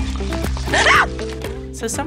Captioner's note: scream